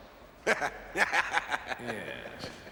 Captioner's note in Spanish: risas